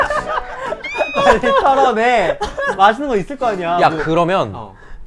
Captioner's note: tantrum